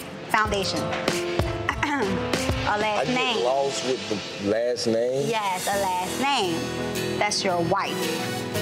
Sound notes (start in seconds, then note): 1.9 clears throat